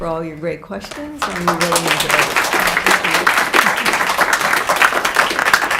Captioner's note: audience applauds